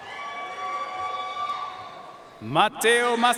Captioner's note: audience cheering and applauding